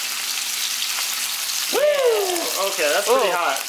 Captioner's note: louder sizzling noise; sizzling noises